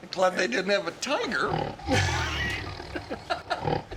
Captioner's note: laughs